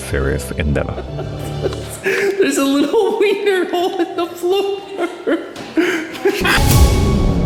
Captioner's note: laughs